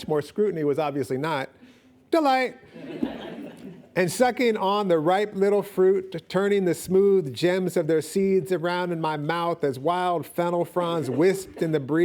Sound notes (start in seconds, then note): 2.7 audience laughing